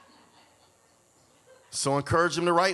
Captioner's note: audience laughs